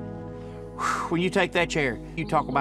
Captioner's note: sighs